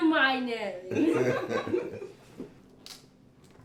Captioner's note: laughing